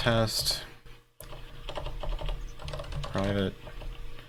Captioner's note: keyboard keys clanking